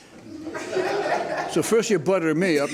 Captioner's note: spectators chuckle